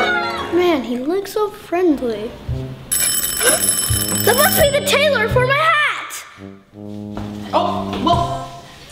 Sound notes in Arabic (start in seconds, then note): 2.9 حلقات الجرس